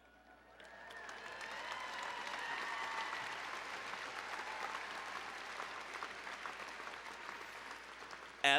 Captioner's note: applause